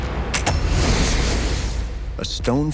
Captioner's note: ignition blasts; ignition fizzes; trigger clicks